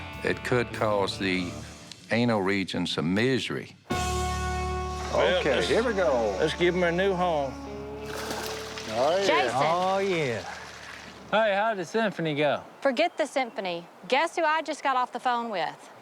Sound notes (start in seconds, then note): 7.7 splashing